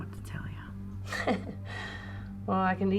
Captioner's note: chuckles